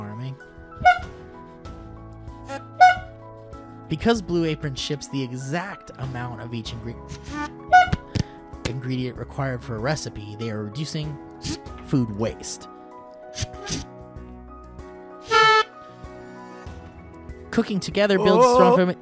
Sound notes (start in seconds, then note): 0.3 honk; 8.3 honk; 13.3 thwp